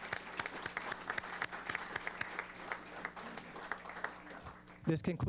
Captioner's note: applause